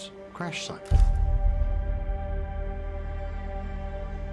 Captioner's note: picture click